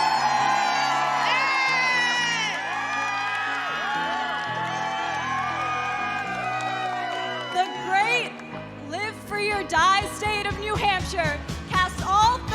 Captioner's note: cheers and applause